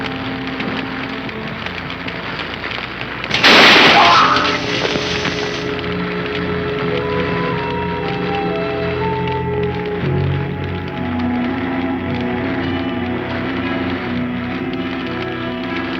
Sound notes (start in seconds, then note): 3.3 gunshot blasting; 3.4 Philip groaning; 7.1 deliberative orchestral music